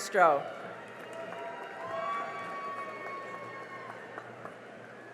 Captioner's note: cheering and applause